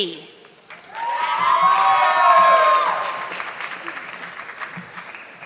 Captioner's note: audience clapping